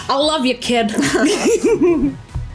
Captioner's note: laughter